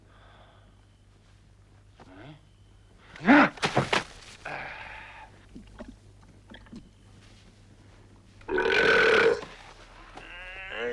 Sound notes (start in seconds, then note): 4.4 Torente grunts; 8.5 Torente belches; 10.1 Torente groaning